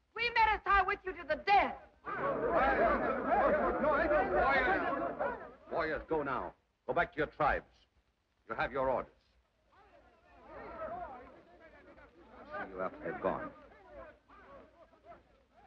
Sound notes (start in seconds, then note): 2.0 men chatter; 9.9 men chatter in foreign language